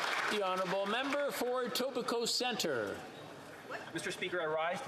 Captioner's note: applause